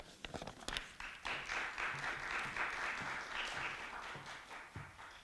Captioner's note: audience clapping